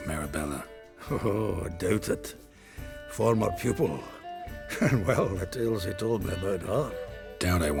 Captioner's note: chuckle